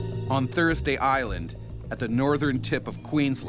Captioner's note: voiceover